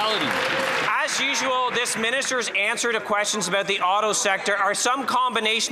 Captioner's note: some Applause